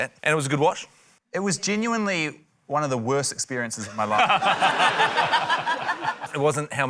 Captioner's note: laughter